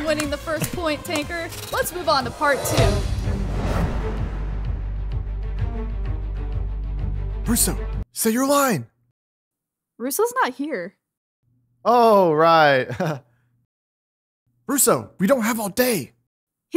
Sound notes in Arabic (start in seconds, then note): 3.1 موسيقى درامية; 12.9 ضحكات خافتة